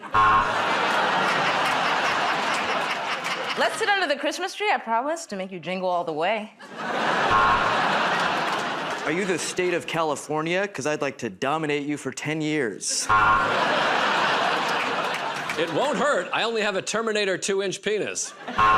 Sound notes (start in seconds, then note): 0.0 buzzer; 2.0 laughter; 7.2 buzzer; 13.1 buzzer